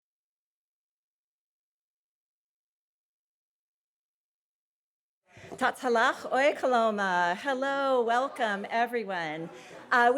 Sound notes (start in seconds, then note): 5.6 speaking Nez Perce